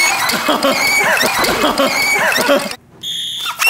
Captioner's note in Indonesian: tertawa terbahak-bahak